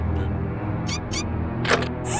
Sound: click

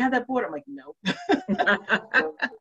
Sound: laughs

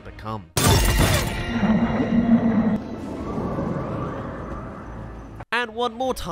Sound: explodes* *Spotted in distance

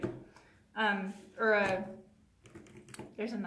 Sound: tapping

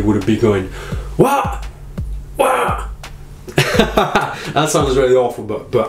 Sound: laughs

